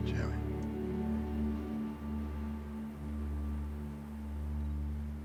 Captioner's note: birds chirping